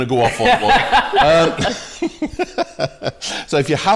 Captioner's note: laughter